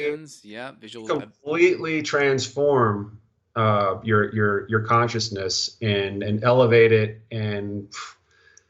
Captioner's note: sigh